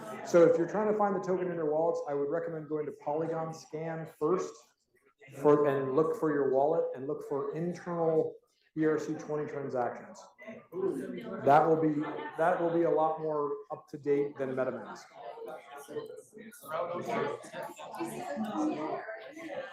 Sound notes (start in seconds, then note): 15.6 students chattering